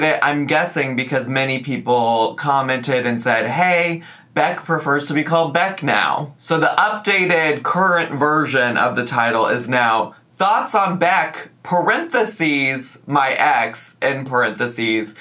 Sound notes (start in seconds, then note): none